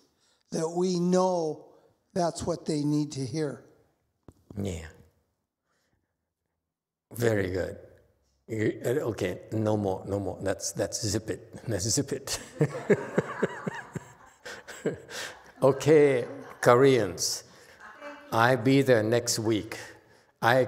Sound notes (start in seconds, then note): 12.4 laughs, audience laughs